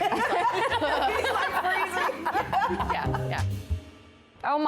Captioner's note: laughter